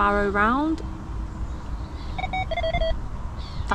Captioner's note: bite alarms going off